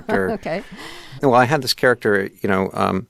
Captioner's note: laughter